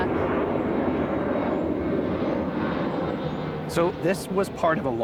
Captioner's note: airplane engine roaring